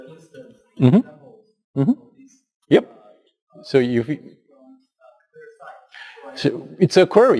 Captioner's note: pause